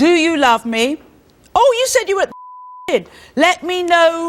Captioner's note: beep